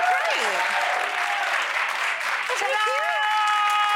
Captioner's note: audience cheering